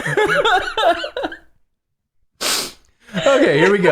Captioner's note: laughter